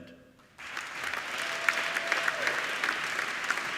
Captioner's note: applauding